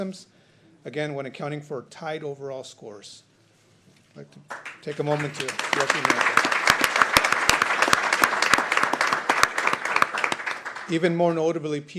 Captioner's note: applause